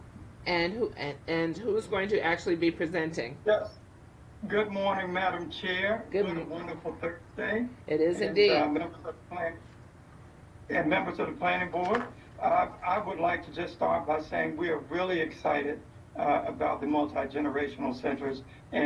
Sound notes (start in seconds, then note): 9.2 distorted audio